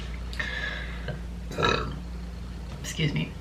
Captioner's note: burps